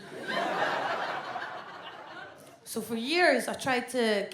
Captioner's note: audience laughs